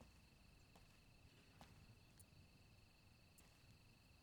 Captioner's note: crickets chirp